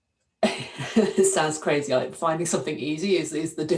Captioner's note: laughing